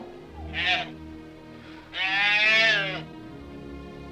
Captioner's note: bull calf moos